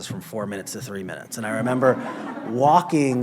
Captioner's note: laughter